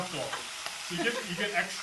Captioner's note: laughs